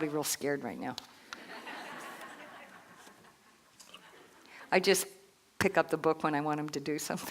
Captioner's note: laughter